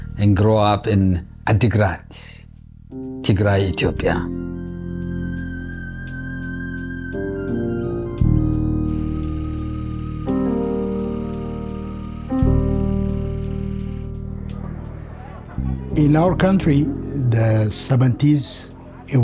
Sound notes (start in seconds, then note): 8.6 film projector whirs as mellow music continues